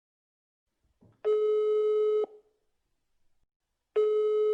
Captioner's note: phone calling